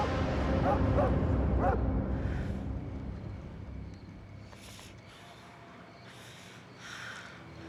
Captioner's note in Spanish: ladridos